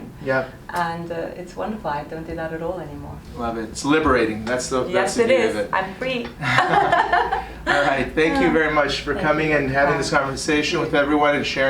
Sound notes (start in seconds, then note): 6.4 both laugh